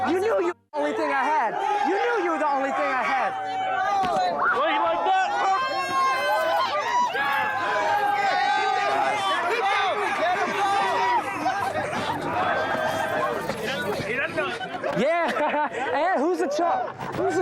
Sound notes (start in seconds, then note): 5.9 crowd shouting